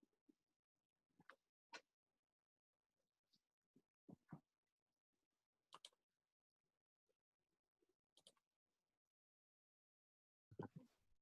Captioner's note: silence